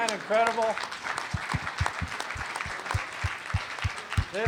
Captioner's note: applause